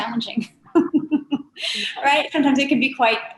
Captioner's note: all laughing